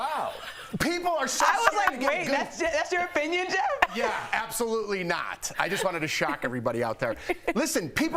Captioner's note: laughter